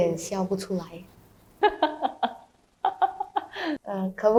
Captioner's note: laughs instead